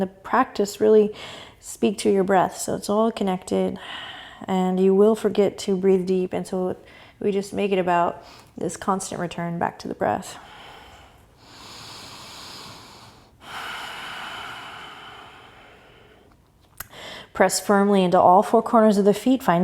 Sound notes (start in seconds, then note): 12.7 breathing